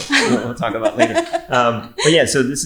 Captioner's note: laughing